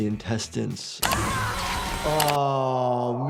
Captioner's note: yells